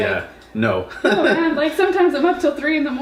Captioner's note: laughs